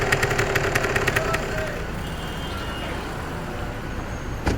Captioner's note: cars honking